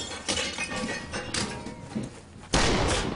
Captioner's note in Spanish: estruendo de vidrios